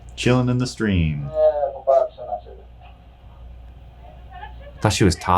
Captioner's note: cameraperson speaking foreign language